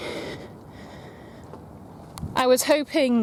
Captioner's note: breathes heavily